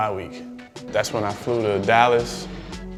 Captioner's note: plane engine roars